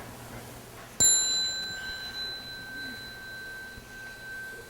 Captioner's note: sound of small bell